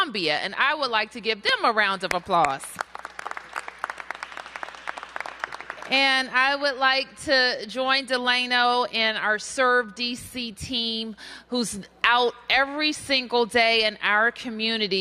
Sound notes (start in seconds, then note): 2.4 applause